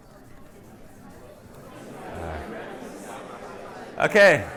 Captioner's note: indistinct chatters